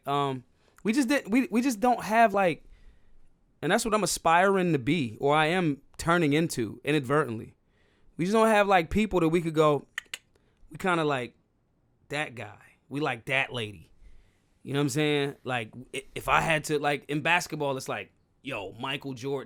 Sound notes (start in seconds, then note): 10.7 clicking